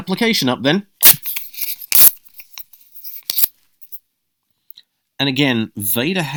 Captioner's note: rip